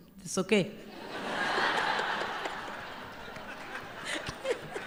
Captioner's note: laughter